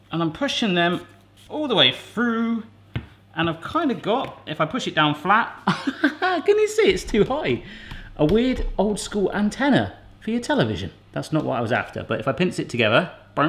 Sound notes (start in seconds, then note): 5.7 laughs